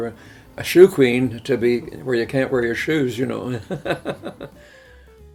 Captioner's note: laughs